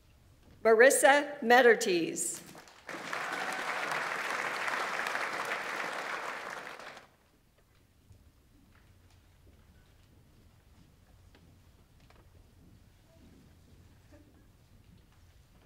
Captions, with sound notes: Marisa Mueterthies. (audience applauds) (audience member cheers)